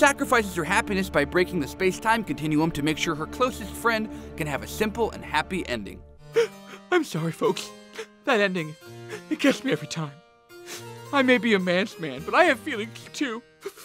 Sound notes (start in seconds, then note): 6.3 sobs